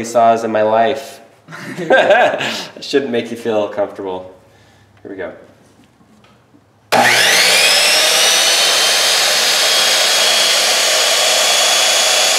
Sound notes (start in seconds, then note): 1.5 laughing; 6.9 saw machine screeching